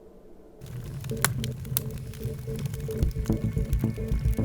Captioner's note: fire crackling; tense music plays